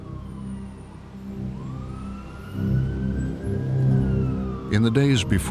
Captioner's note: sirens blaring in distance